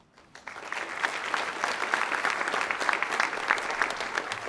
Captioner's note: audience clapping